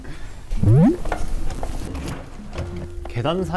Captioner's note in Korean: 뒤적